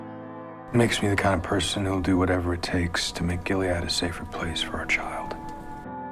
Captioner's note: voiceover